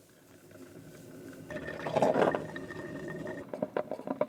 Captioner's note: coffee brewing